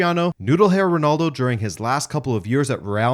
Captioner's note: none